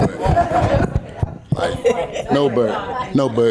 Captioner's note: audience laughing